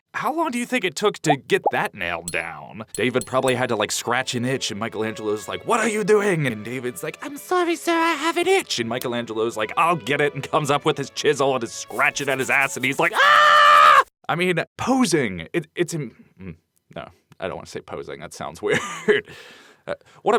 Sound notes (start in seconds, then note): 12.9 screams